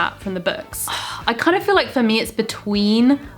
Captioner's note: sighs